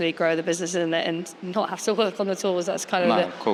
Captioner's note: laughs